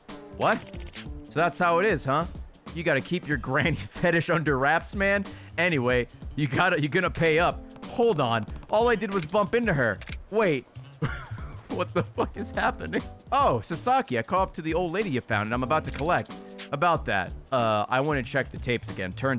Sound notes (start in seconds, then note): 10.9 laughs